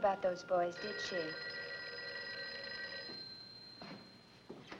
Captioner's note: telephone rings